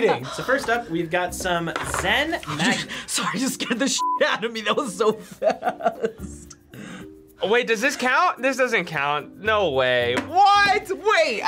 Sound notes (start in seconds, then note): 5.1 chuckles